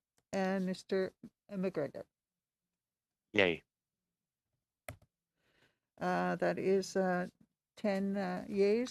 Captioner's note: speaking French